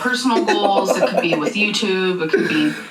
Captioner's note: laughing